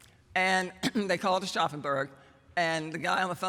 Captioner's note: german; german